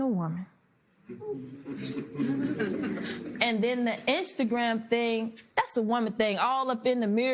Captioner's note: light laughter